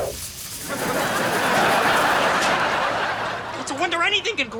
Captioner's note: audience laughs